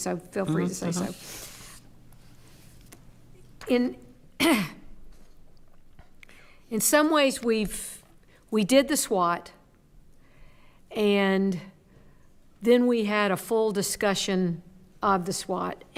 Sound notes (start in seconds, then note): 4.4 clears throat